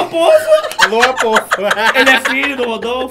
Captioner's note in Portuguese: risos